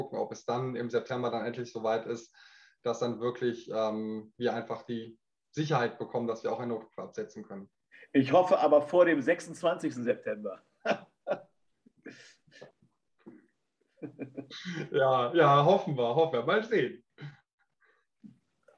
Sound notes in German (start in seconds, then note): 10.8 lacht